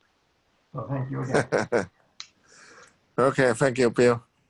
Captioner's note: laughs